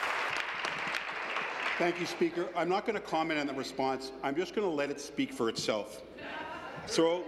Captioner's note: some Applause